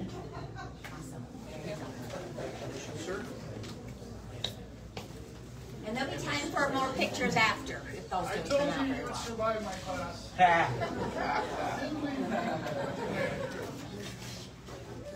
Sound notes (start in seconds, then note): 3.3 indistinct chatter; 10.4 audience laughs